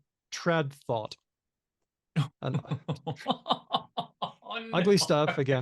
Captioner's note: laughs